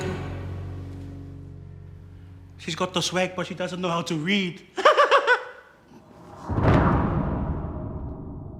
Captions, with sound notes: - She's got the swag, but she doesn't know how to read. (CHUCKLES) (DRAMATIC NOTE)